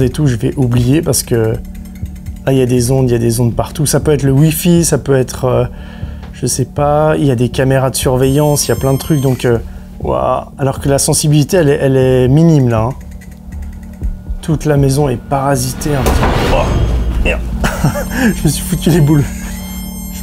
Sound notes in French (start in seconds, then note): 15.6 Bruit de choc